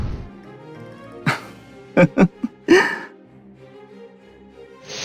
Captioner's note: laugh